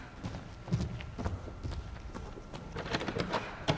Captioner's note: footsteps exiting; door opens